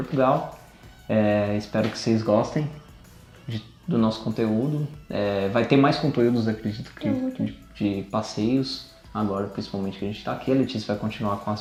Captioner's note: laughs